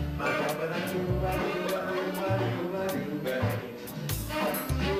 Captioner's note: laughing